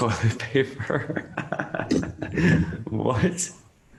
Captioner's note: laughs